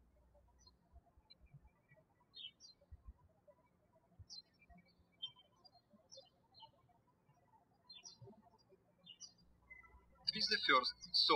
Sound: birds chirping

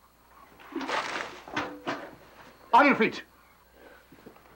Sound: water splashing

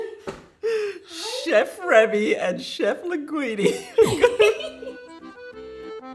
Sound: laughs

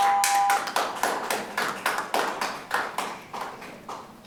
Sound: clapping

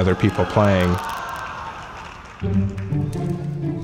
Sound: audience exclaims; upbeat music

